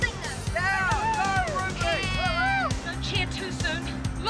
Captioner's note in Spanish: niños animando